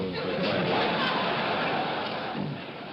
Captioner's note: all laughing